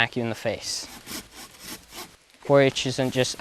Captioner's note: saw rasping